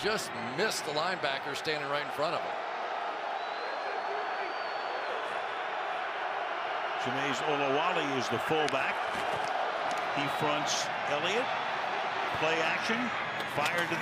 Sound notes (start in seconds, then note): 3.3 cheers